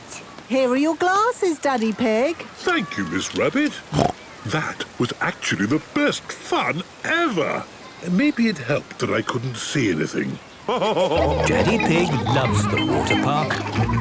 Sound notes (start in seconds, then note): 3.9 snorts; 10.6 laughing